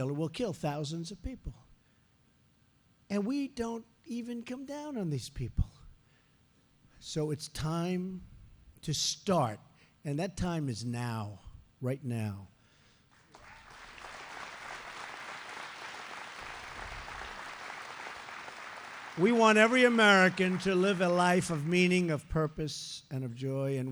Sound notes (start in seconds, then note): 13.1 applause